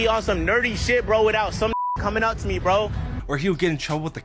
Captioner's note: beep